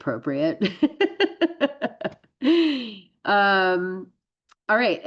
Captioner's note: laughs